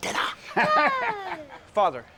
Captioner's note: Aviner laughing